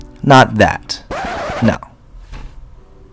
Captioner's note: CD scratch